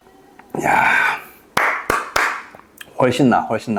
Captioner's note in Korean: 박수